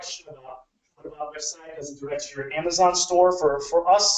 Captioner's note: speaking away from mic